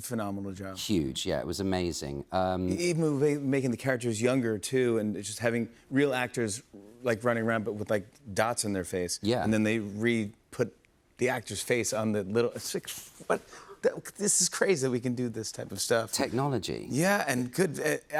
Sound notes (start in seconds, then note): none